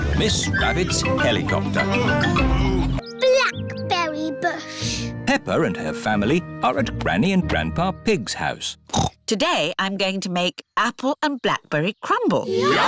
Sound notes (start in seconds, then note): 2.3 daddy pig groans; 8.9 snorts